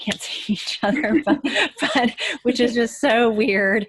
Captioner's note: laughing